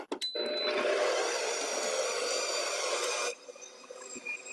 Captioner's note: mixer whirling